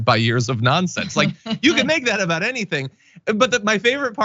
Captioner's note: laugh